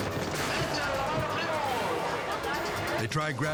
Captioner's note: announcer shouting in foreign language